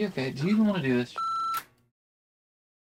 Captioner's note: beep